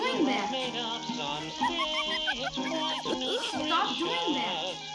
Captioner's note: giggling